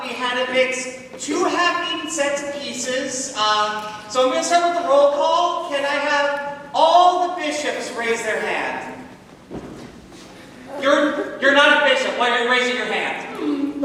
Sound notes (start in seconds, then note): none